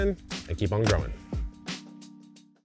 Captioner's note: catalog thumping; rhythmic music